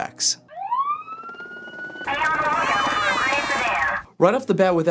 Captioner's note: police siren and megaphone